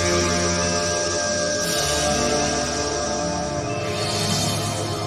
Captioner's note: strong and very loud screeching noise